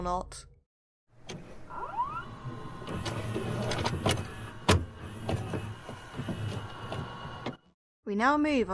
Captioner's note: VHS noises